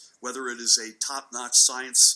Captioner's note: none